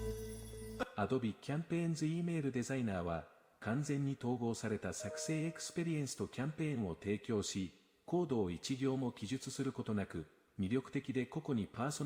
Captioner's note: foreign language 00:20:51